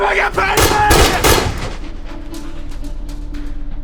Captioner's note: gun firing; suspenseful music